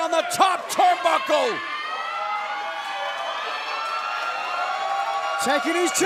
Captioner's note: crowd cheering